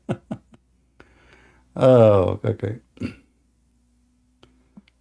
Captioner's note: Ketawa